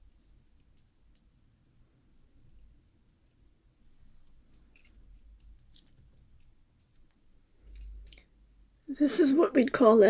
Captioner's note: necklace noises